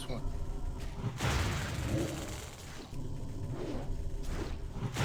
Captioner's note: explosion